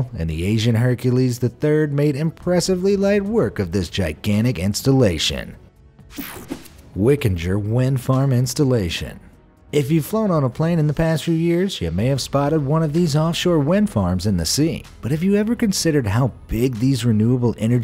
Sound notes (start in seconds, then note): 6.1 image swooshing; 6.1 image buzzing